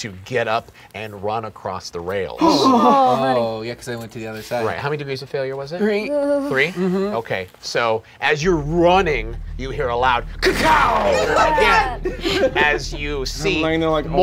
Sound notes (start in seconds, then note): 2.2 groaning; 10.9 screaming